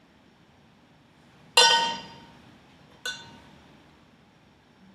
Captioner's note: metal dings